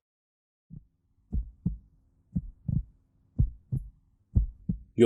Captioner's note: heartbeat sound